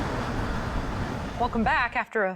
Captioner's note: engine roars